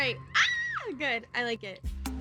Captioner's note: shrieks